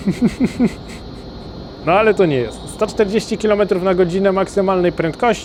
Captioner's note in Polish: śmiech